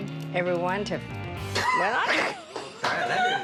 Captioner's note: laughter